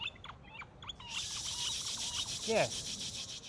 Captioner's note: imitating birds